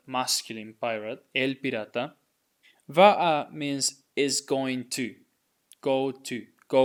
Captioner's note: speaking in Spanish